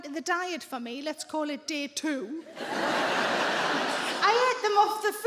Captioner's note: audience laughing